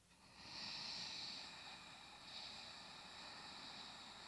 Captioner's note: breathes deeply